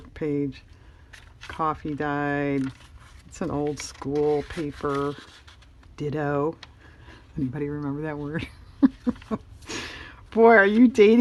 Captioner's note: laughs